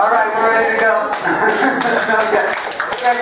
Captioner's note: laugh; applause